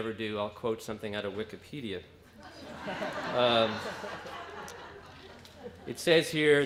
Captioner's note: laughter